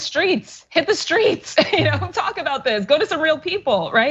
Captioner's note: laugh